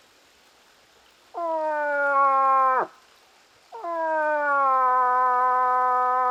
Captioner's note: moose calling